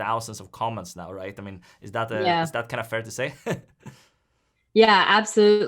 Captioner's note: chuckles